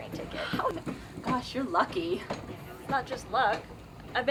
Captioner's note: chuckles